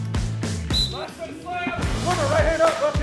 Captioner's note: whistle blows